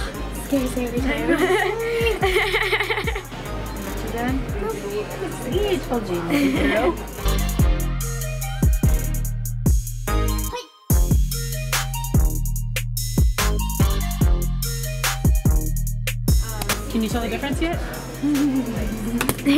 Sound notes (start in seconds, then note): 1.1 laughter; 7.5 upbeat music